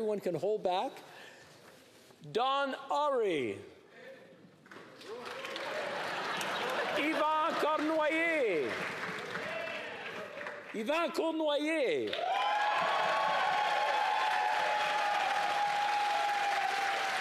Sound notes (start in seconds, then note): 8.2 applause; 16.3 cheering